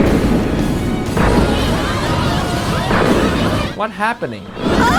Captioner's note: crowd shouting; students screaming